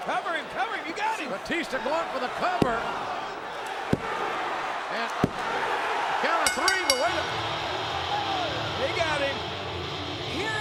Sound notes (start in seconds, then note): 4.2 hand pounding; 7.9 upbeat rock music